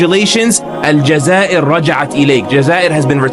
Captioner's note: speaking arabic